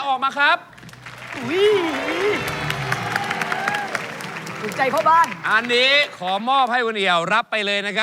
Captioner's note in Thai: ปรบมือ